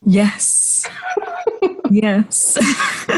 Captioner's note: laughs